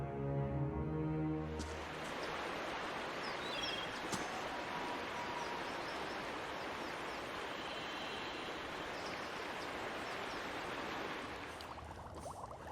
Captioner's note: rushing water; birds singing at random; bubbling lab equipment